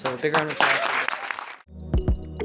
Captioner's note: applause